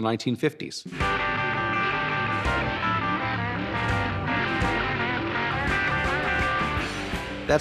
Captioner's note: rock music; engines revving